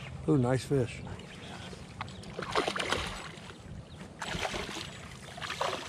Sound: reel cranking

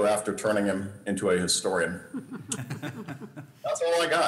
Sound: laughter

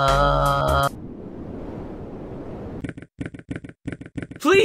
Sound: none

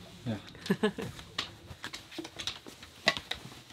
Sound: laughs

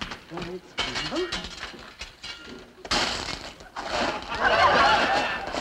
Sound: metal clanging; audience laughing

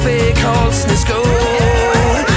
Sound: drunk people cheering

